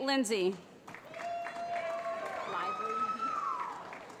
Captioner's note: cheering